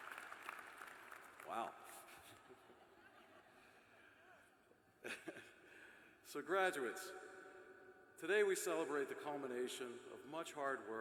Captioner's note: cheers and applause